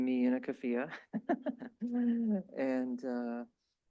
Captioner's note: chuckles